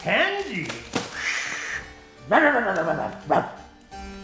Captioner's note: bark